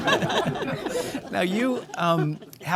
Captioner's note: audience laughing